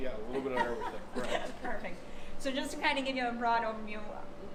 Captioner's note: laughing